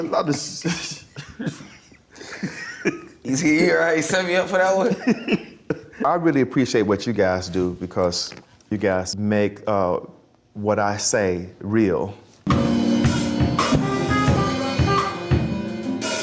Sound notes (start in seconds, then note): 0.6 laughing; 4.8 laughing; 12.4 percussive jazz music